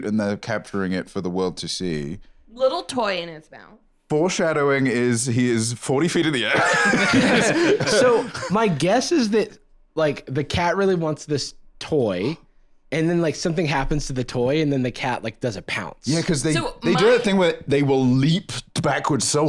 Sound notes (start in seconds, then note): 6.4 laughs